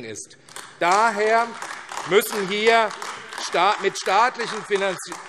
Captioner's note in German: Beifall AfD